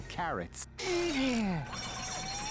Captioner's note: grunting